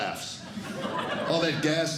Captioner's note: laughter